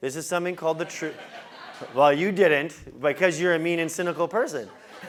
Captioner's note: laugh; laugh